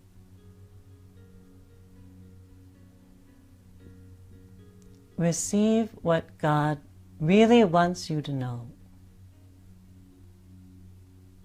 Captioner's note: silence